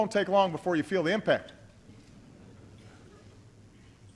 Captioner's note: laughter